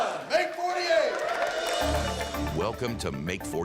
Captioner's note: all cheering